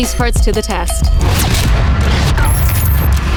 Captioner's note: mechanical whirring and clicking